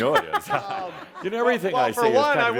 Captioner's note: can be heard chuckling